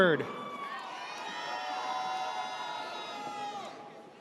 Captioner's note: audience cheers